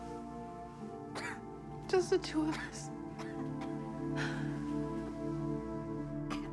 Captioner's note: Cora coughing